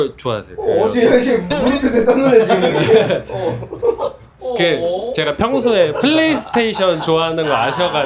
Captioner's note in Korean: 웃음